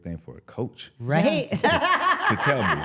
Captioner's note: laughs